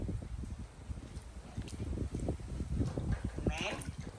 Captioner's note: wind blowing